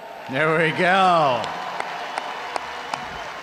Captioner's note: audience applauding; audience cheering; claps